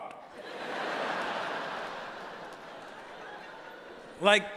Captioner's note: audience laughing